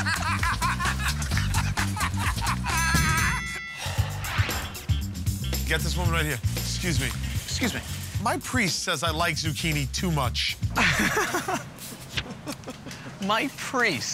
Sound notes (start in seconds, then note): 0.0 laughter; 3.3 ding!; 10.7 laughs